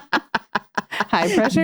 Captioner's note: laughing